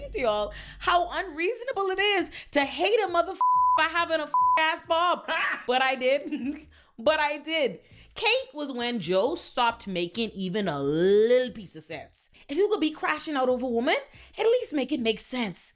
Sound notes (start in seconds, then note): 3.4 beep; 5.0 laughs